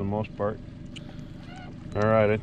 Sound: beep, beep

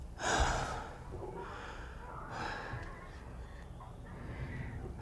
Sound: crying

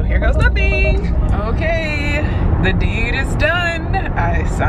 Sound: traffic droning

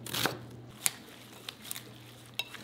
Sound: none

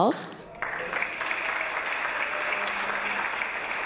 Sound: audience applause

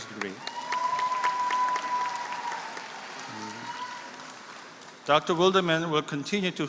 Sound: applause

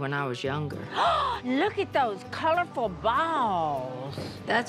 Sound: gasps

